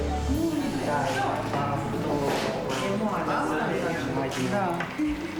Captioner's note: speaking foreign language